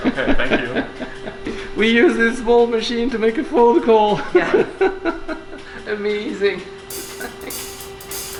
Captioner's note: laughter